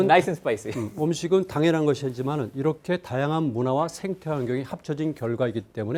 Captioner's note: speaking in Korean